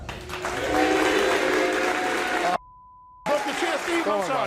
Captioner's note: audience cheers